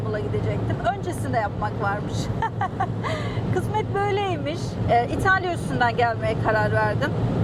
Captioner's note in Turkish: kahkaha